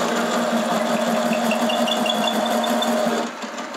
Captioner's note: squeaky drilling noise